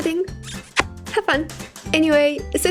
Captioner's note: kiss